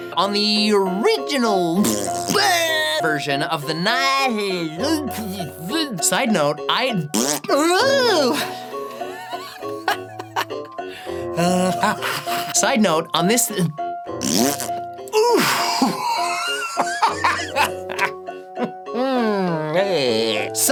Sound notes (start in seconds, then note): 1.8 dying fart noise; 4.9 chokes on tongue; 7.1 fart noise; 14.2 epic fart